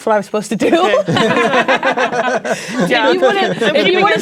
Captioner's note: players laughing